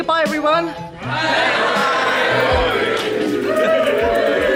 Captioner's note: audience responds